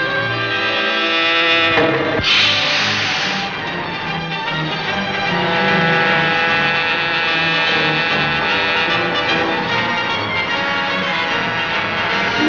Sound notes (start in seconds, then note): 1.8 gun exploding; 4.0 frenetic music; 5.2 train whistle tooting